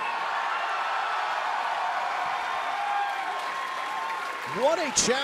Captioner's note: cheers and applause